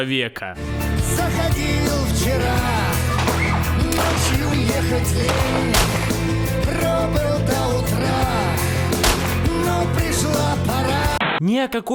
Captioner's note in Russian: выстрел, крик, выстрел; выстрел, выстрел; помехи